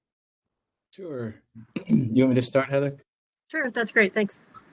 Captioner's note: cough